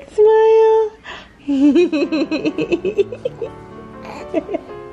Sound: giggling

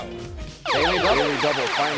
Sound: zapping

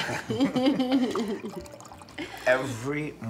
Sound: laughing

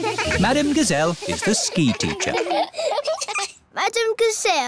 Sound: laughing

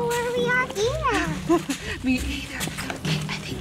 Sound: laughs

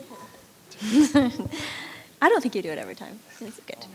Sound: chuckling

